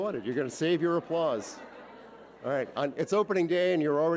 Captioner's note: audience laughing